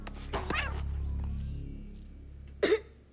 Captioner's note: fang meows weakly